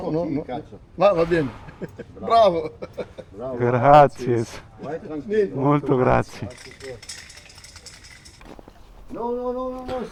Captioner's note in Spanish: risas